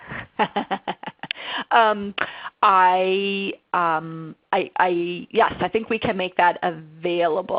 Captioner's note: laughter